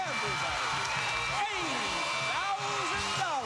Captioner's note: cheers and applause